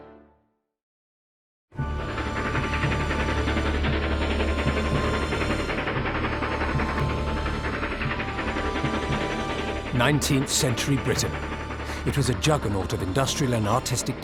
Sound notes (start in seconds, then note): 1.8 train rumbling